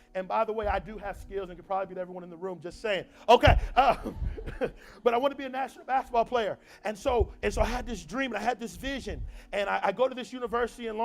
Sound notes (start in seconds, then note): 3.8 laughs